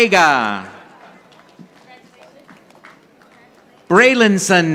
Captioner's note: audience applauding